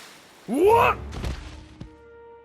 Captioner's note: thud